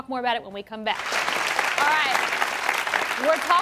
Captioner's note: audience claps